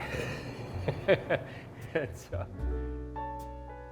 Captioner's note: laughs